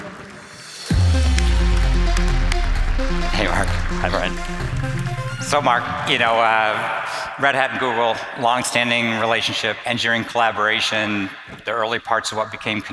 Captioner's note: applause